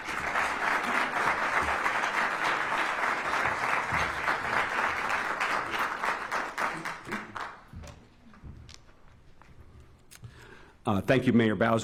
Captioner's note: applause